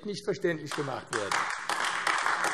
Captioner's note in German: Beifall AfD